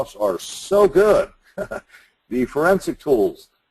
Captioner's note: laughs